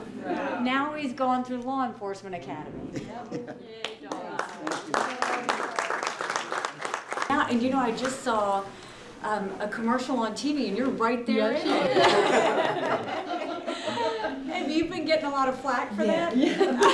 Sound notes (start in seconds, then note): 3.8 applause; 11.6 laughter